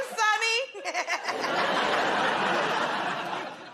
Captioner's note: laughter